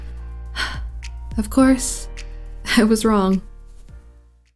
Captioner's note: sigh